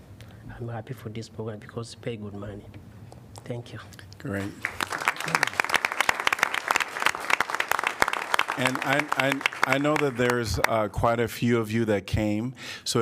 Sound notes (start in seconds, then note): 4.5 applause